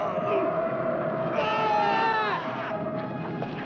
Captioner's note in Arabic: يتأوه الجندي; يصرخ الجندي